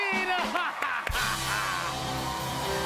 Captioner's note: cheers and applause